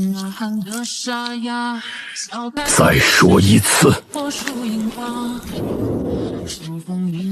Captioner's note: A hoarse voice